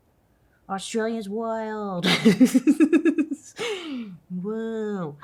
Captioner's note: laughs